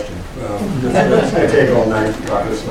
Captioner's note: laughter